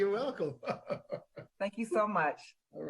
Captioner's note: laughing